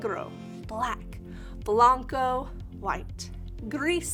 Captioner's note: speaking in Spanish